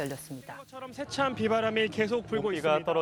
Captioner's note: news Reporters' Voices